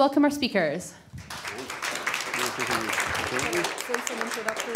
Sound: applause

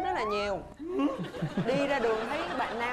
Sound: laughing

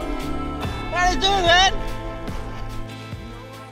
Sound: suspiciously thick Tongan accent

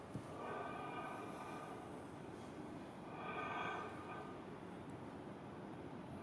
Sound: rhythmic breathing continues

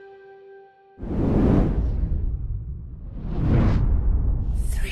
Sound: whooshing sound

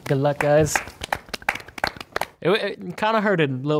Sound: group clapping

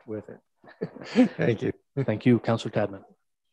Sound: laughing

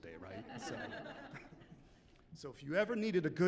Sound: chuckling

